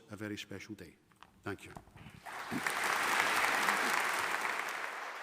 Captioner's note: audience applauding